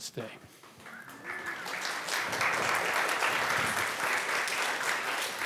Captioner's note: applause